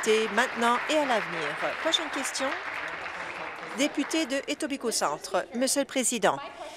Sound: applause

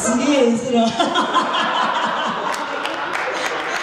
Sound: laughs

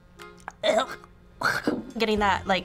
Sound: retches

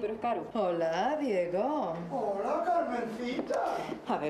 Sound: none

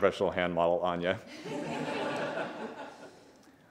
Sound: laughter

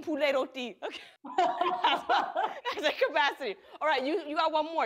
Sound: laughter

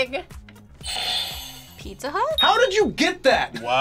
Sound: buzzer rings

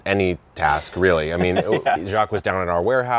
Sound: laughing

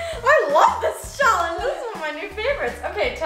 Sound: none

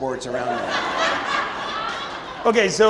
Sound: audience laughing

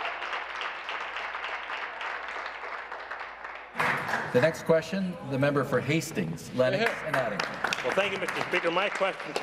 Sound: applause

